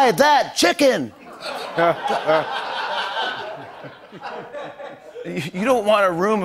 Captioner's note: laughter